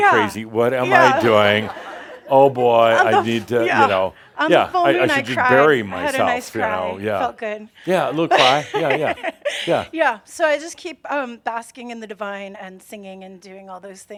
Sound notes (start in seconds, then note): 0.6 some chuckles; 8.2 she chuckles